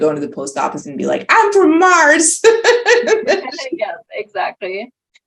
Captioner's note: laughing